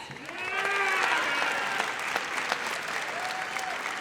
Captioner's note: audience cheers